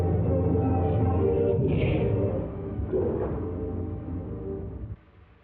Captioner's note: gunfire blasting